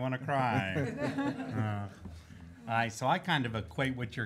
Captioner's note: laughing